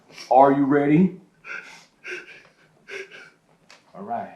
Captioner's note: whimpers